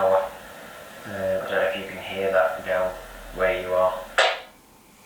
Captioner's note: walkie talkie